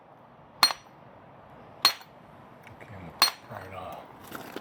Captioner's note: hammer hitting wall